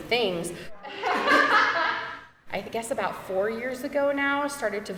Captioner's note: people laughing